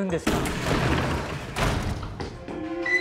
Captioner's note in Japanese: ガラッ！！